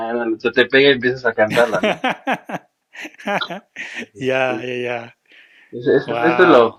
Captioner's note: laughs